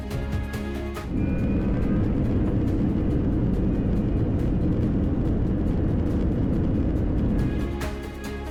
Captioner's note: jet engine spool up